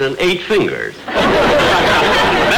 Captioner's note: audience laughter